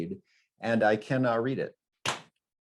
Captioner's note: knee slap